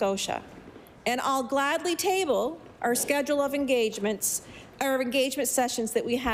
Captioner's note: none